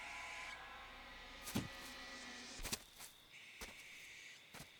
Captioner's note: footsteps falling